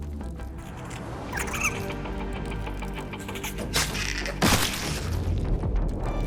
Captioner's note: creature skittering